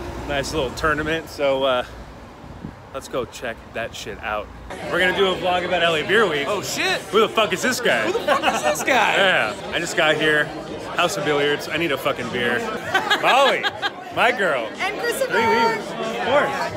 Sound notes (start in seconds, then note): 8.1 man laughing; 14.0 laughing